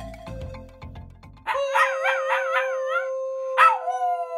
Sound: Shiba dog wolf-like howling

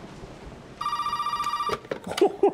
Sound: phone ringing; laughs

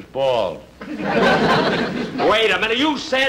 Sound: audience Laughing

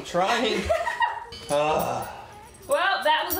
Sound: sigh

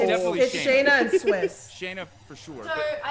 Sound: laugh

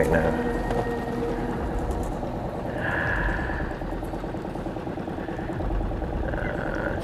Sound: engine droning; ominous music continues

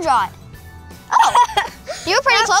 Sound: laughing

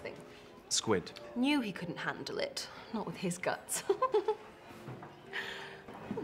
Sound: giggles

